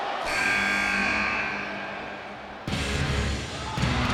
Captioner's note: buzzer buzzes; dramatic music